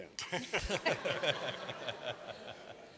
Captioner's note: laughter